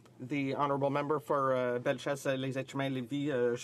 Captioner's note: speaking French